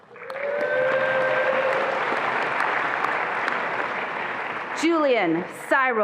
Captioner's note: attendees applauding and cheering